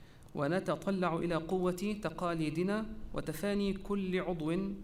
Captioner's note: repeated in Arabic